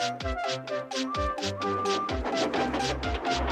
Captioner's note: toots